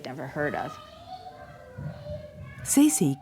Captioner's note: child chattering